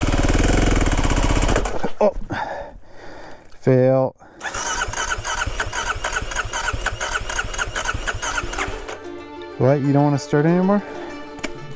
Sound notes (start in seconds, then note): 4.4 engine turning over